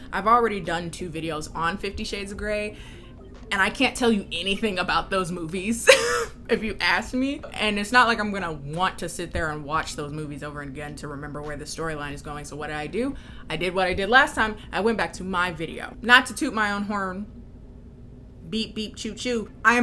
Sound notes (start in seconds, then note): 6.1 laughs